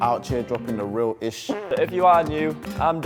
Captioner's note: imitates farting